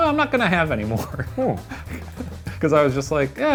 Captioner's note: laughs softly